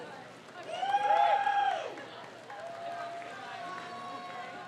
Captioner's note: crowd cheers